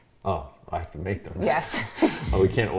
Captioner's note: both laughing